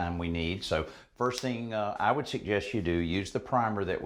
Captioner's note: none